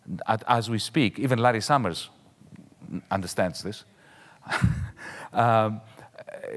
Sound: chuckles

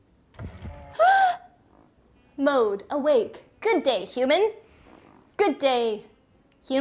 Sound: gasps

